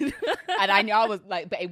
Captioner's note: laughs